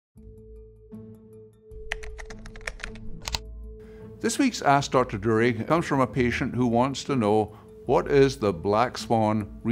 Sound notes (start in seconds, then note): 0.2 suspenseful music; 1.8 keyboard tapping